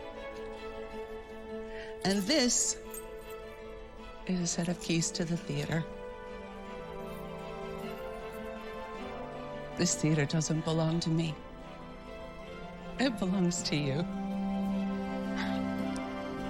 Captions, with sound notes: and this is a set of keys to the theheatre. This theatre doesn't belong to me. It belelongs to you. [chuckles]